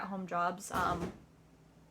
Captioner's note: thud